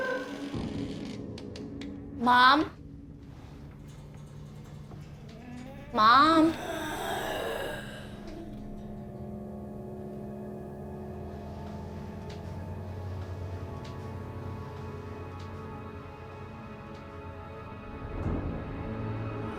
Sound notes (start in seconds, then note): 4.3 door creaking; 7.1 eerie breathing; 11.6 eerie music